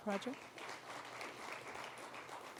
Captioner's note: applause